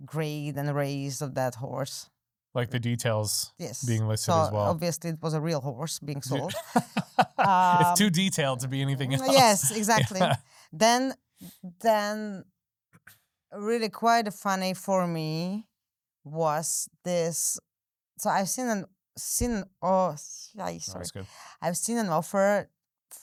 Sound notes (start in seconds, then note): 6.3 laughing